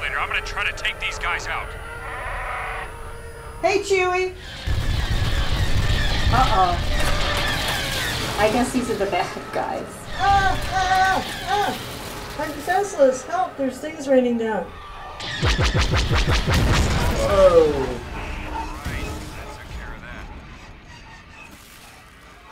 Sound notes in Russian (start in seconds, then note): 2.0 Чубакка рычит; 4.4 TIE истребители стреляют; 10.2 нервно; 15.2 Тысячелетний Сокол стреляет; 15.2 TIE истребители взрываются; 20.2 двигатель Тысячелетнего Сокола глохнет